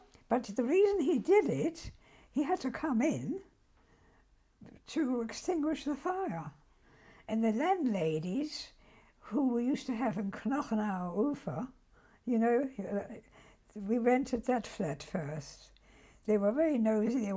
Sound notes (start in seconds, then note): 11.5 german